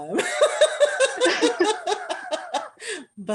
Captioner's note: laughter